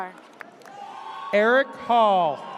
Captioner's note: audience cheers